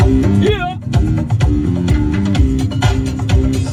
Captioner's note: man shouts